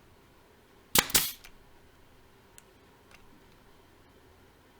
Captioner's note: nail gun thuds